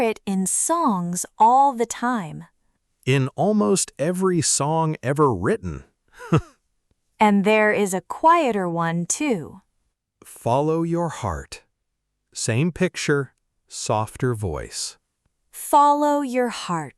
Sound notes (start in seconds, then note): 6.2 laughs